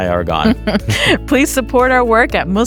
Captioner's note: chuckling